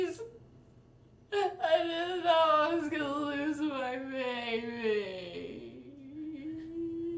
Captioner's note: sollozando